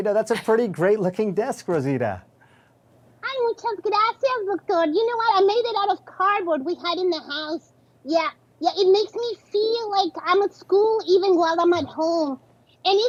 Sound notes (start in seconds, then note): 3.1 speaking Spanish